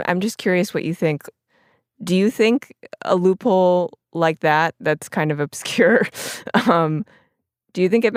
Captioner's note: laughs